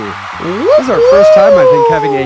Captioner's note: crowd cheering